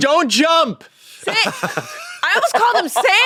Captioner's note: laughs